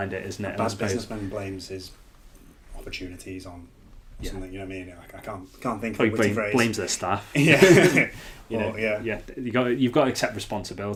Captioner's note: laughing